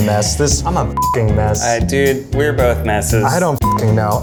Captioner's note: beeps